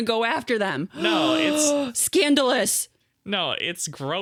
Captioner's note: gasps